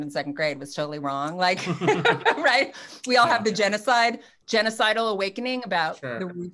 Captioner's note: laughs